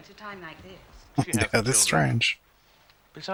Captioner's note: chuckling